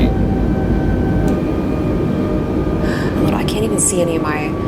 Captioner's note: engine slows